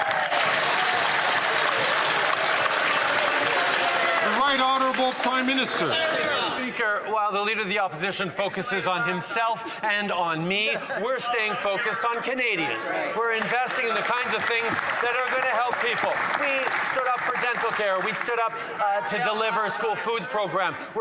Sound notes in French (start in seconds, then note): 5.8 applaudissements; 10.0 voix de l'interprète